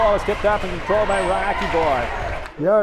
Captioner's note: radio Announcer